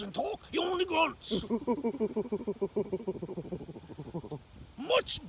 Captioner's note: hoots like a chimpanzee